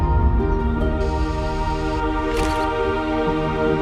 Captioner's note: birds chirping; camera whirs and clicks